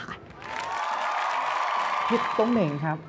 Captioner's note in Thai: เสียงเอฟเฟกต์ปรบมือ